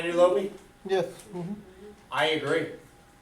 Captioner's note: voiceover